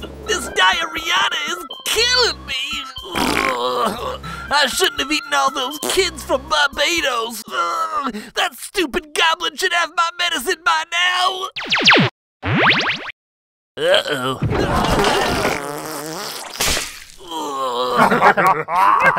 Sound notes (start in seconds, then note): 14.6 violent farting; 17.8 laughing